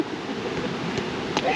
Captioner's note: laughs